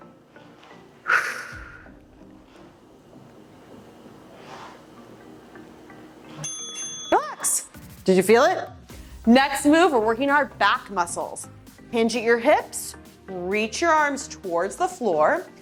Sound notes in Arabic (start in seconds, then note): 2.2 تنفس; 2.2 رنين الجرس